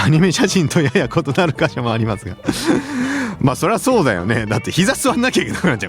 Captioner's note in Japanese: 笑い